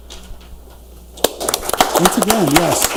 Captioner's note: audience applauds